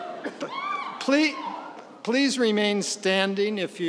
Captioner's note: laughing; cheering